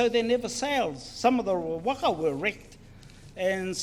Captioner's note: foreign Language